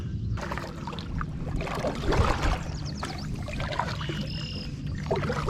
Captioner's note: paddle splashing water